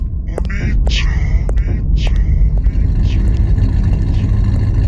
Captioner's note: voice speaking distorted